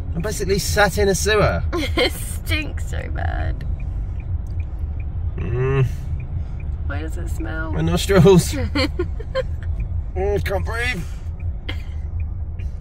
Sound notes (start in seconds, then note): 5.4 moans uncomfortably; 8.3 laughing